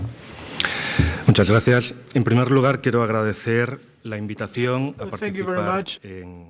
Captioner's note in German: spanisch